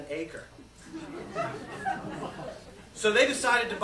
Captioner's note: laughter